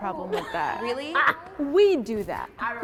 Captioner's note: laughs